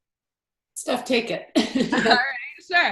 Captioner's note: chuckles